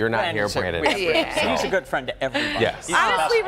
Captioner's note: laughter